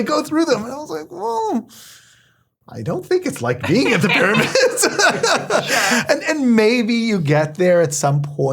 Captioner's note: laugh